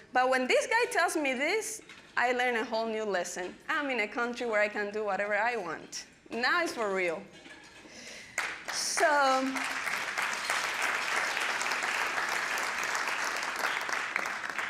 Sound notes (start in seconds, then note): 8.2 applause